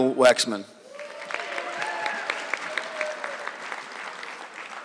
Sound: audience clapping

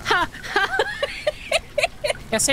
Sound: laughter

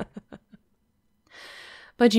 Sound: she laughs softly, even as she holds her hands up in a non-threatening way

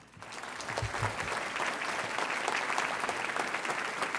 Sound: audience applauds

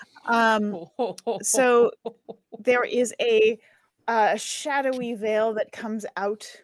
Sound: laughing

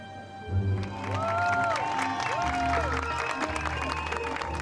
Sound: cheering

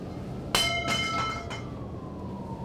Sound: metal clangs; siren blaring

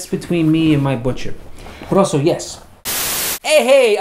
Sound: static hisses

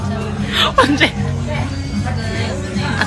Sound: laughing

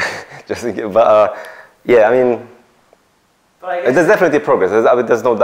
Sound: laughs

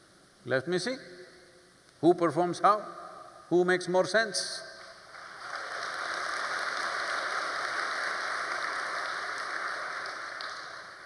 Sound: applause

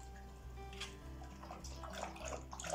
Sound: drinking sounds

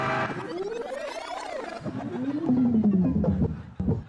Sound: tape rewinding

